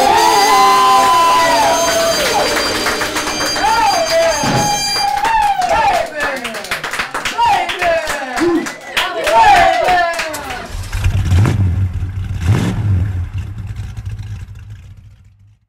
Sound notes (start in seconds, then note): 0.0 applause; 5.3 crowd cheers